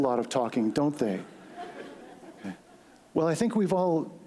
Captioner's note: laughter